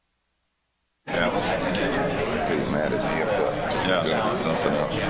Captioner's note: background chatter